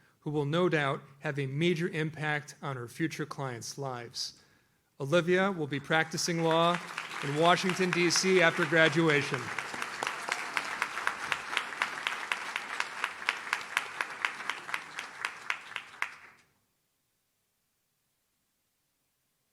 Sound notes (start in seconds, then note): 9.5 audience claps